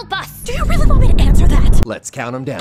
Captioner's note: more intense brown noise